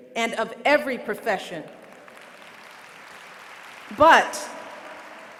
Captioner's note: applause